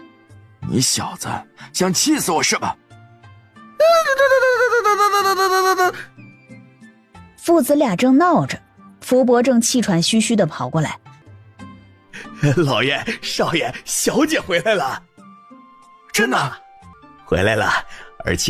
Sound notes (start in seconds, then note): 3.8 sound of frustration or dismissal